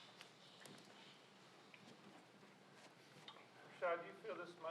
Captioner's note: people shuffling